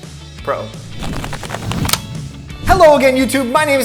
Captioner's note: shuffle noises